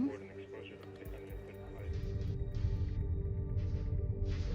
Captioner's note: navigators chattering